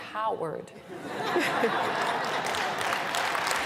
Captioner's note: laughter